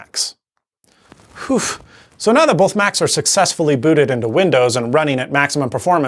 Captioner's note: phew